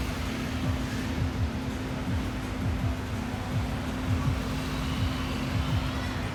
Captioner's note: street noise